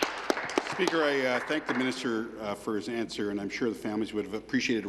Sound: applause

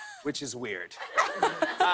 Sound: laughter

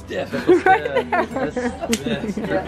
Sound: laughs

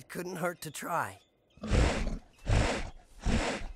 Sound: sniffing

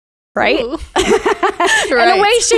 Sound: laughing together

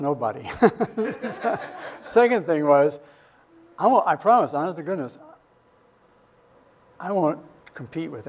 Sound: laughs

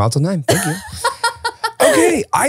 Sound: laughing

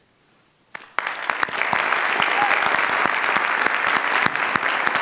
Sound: audience applauds

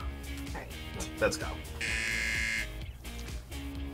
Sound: buzzer rings

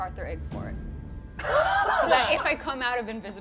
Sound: laughs

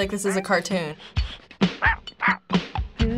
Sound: dog yipping

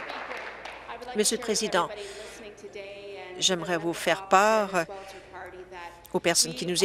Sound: applause

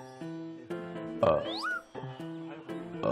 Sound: burp; burp

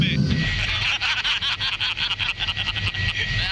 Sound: all laughing

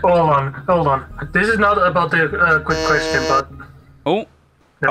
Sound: buzzes

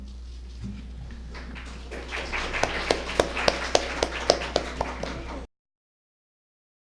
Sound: applause

